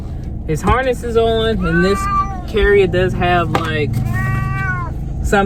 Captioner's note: meow